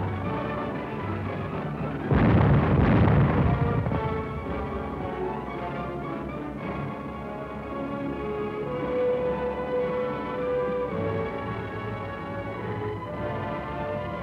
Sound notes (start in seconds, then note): 2.1 explosions, gunfire